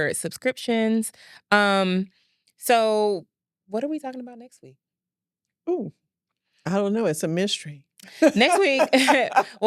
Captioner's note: laughs